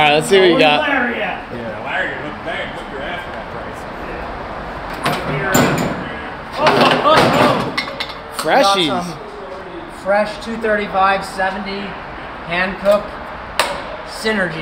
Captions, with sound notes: - All right, let's see what you got. - Where's Larry at? - Yeah, Larry, they'll hook you right up on prices. (background chatter) - Freshies. - Fresh 2 35 70 hand cook synergies.